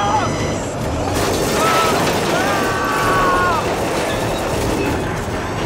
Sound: Van Screaming

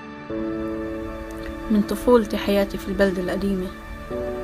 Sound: speaking arabic

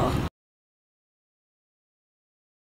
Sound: silence

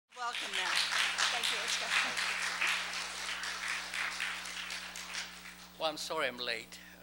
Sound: applause

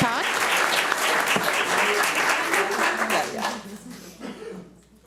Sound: audience applauds

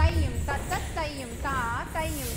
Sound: non-english speech

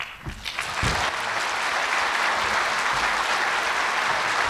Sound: audience applauds

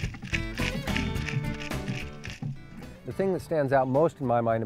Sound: flapping

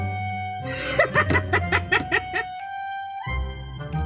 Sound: laughing

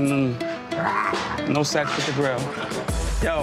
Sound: Moniece growling

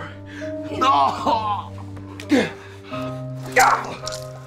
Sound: Jason grunting; Adam grunting; knife slashing

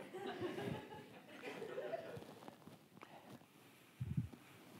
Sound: audience laughs

